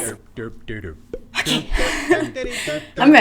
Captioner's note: laughing nervously; laughter